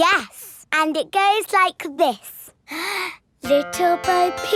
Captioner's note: inhales